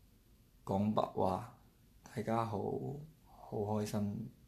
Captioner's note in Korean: 광둥어